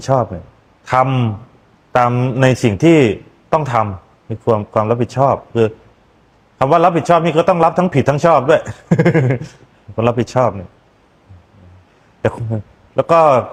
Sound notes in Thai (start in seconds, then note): 9.2 เสียงหัวเราะ